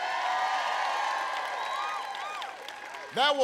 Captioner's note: applause